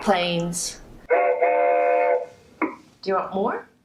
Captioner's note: train horn